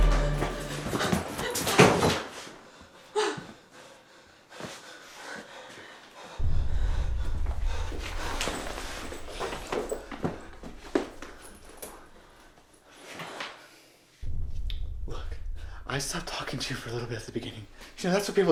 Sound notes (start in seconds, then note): 0.1 panting; 9.3 bags thudding